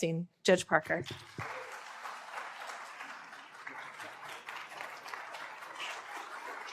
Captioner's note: applause